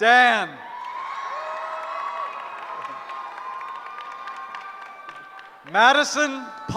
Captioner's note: cheering